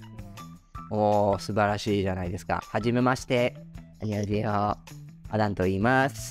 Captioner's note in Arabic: يتحدث باليابانية والكورية